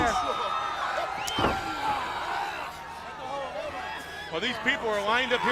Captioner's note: crowd chatter